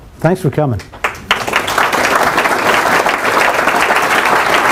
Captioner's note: applause